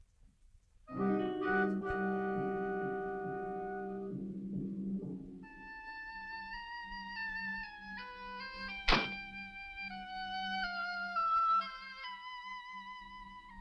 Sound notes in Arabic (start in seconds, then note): 0.1 موسيقى مضطربة; 8.2 صوت طرق الباب